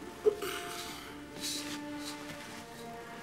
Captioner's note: grunts